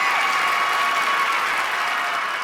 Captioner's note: cheers and applause